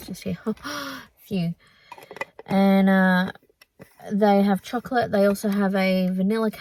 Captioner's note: lid clunks